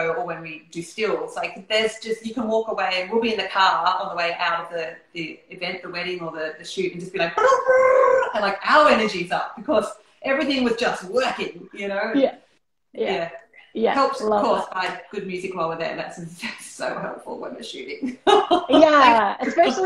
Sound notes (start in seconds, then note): 7.3 high energy noises; 18.2 laughing